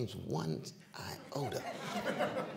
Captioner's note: laughter